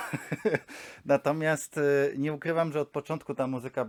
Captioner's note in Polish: śmiech